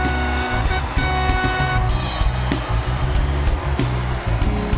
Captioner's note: cheers and Applause